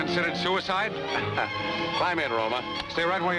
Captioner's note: laughs